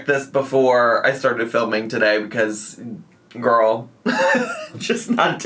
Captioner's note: laughs